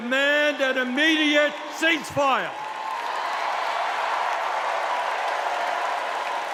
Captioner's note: cheers and applause